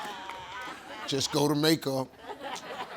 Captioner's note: audience laughing